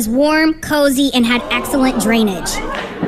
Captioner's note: All the Toad People Gasps a Lot